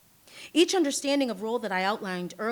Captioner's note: none